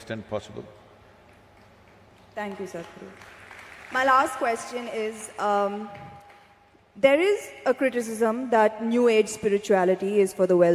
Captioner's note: laughter/Applause